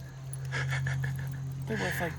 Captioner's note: laughing